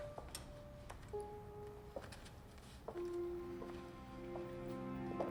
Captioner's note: shoes clacking